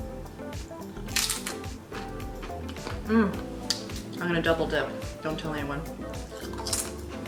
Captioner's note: crunches chip